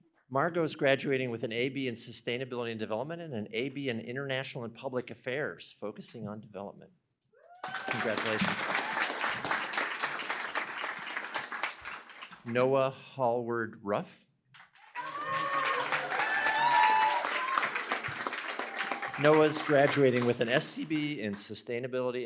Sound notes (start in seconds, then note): 7.6 applause; 14.7 cheering, applause